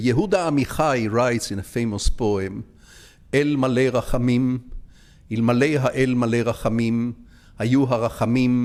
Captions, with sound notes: Yehuda Mihai writes in a famous poem, (speaking in foreign language).